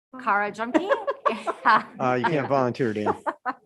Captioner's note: members laughing